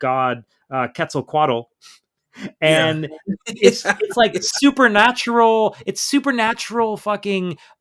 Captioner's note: incredulous laughter